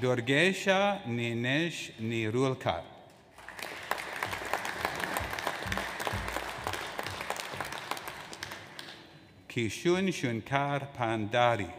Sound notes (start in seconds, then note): 3.3 audience applauds